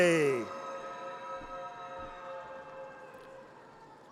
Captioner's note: audience cheers